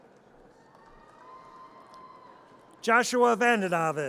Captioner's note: audience cheers